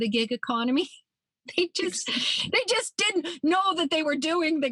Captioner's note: laughs